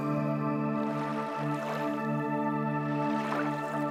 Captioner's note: water splashes